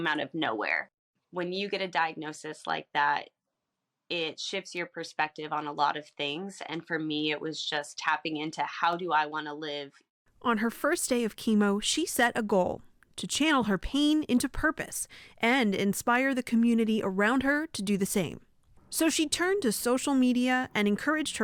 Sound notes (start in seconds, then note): 10.9 voice-over